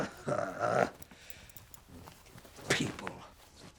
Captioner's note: man grunts